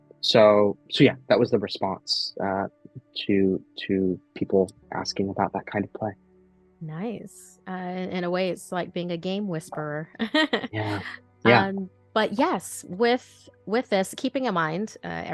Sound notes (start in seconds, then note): 10.4 laughs